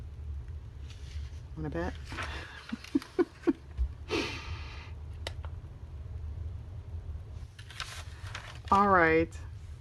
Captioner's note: laughs